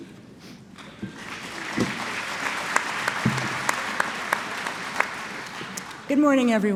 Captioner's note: applause